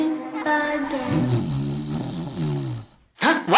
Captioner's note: snoring